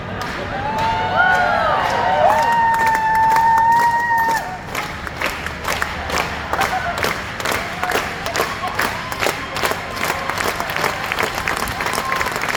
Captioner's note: rythmic clapping gets faster and faster